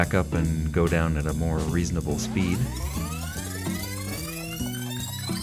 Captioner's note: sound of tape rewinding